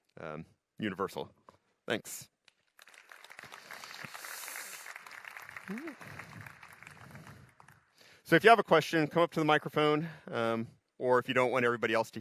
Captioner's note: applause